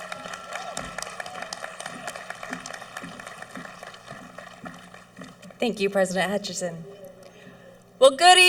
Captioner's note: clapping